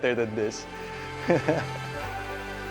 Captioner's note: chuckles